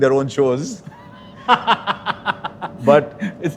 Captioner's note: laughs